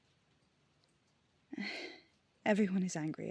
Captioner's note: sighs